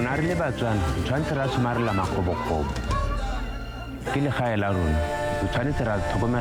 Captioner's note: speaker speaking in foreign language